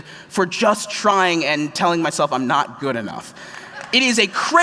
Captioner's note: applause